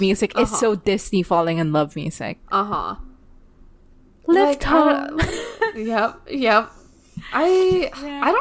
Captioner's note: laughs